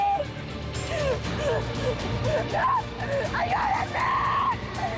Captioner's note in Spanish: Sollozos